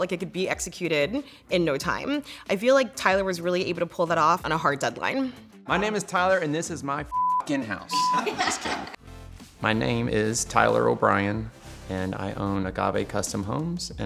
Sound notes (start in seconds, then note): 7.1 beep; 8.0 laughing